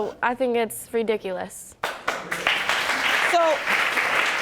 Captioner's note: audience applauding